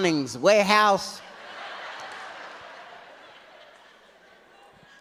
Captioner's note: audience laughs